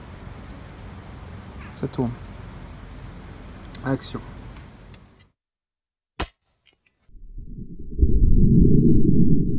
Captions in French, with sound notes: Ca tourne. Action. *Bruit du coup d'épée.* *Bruit du coup au ralenti.*